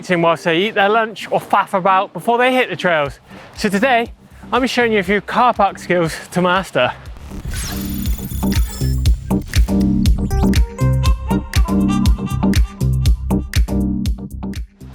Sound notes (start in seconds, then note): 7.2 beeping; 10.6 dreamy music